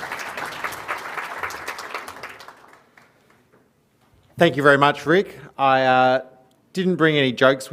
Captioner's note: applause